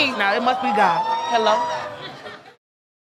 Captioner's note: audience laughing